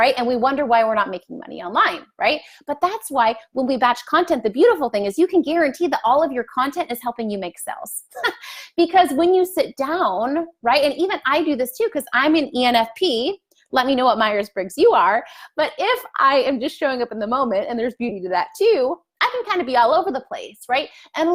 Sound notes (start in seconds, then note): 8.4 laughs